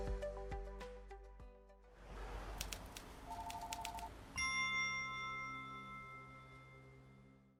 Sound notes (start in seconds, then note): 3.3 electronic beeping; 4.3 chimes ringing